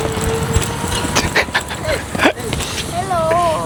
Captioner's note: laughs